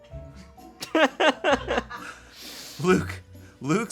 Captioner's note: crew laughs